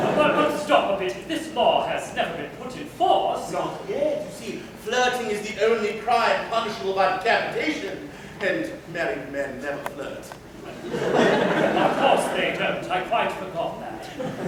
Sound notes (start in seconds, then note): 10.7 laughter; 14.0 laughter